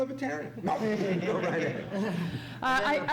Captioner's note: laughter